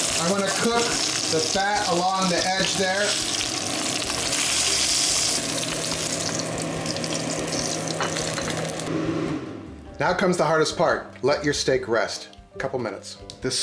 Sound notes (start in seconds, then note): 3.9 sizzling